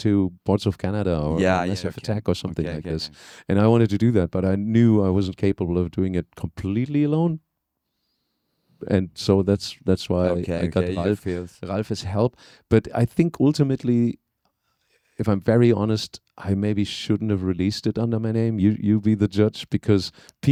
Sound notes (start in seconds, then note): 1.3 laughing; 6.5 upbeat Music